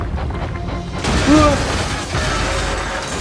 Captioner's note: Thomas yells